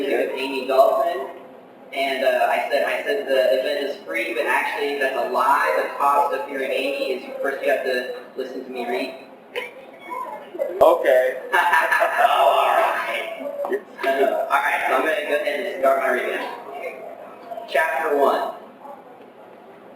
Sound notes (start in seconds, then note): 12.2 sarcastic; 12.9 chuckle